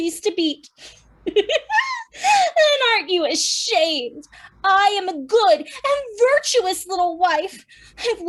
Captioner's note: laughs through her tears